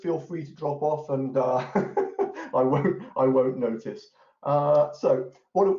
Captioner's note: laughs